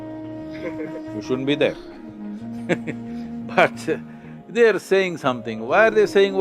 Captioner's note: laughs